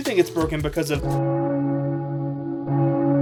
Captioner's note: foreboding church bells